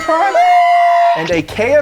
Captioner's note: exclaiming